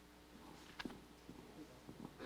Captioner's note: audience member speaking